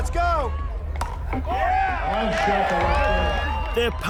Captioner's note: cheering and applause